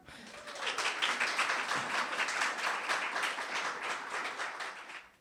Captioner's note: audience applauding